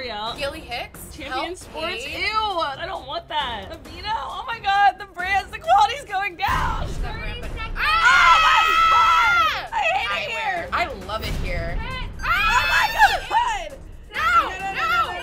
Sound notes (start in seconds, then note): 7.7 women screaming